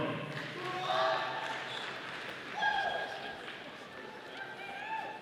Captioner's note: audience applauding